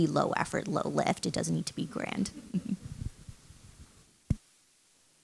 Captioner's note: chuckles